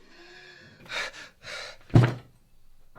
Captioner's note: sound of panting; thump sound